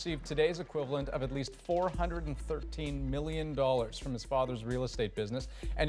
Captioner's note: applause